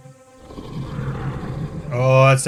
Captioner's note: subtle dragon roar